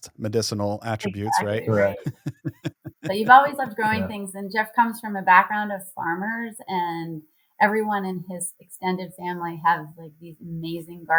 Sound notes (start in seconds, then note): 2.5 laughs